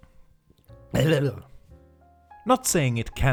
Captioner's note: speaks in drunk